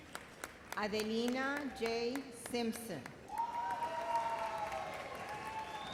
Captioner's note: audience cheers